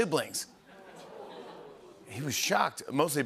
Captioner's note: audience oohs